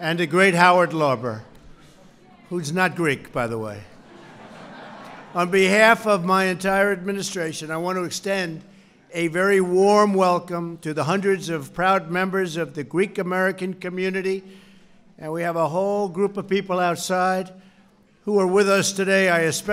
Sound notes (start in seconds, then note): 3.9 laughter